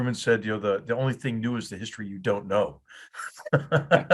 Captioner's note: laugh